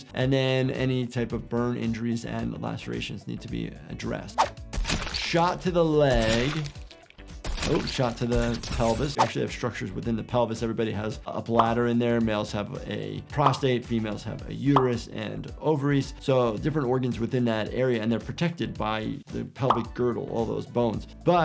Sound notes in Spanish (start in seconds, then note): 4.7 disparos de armas; 6.5 disparos de armas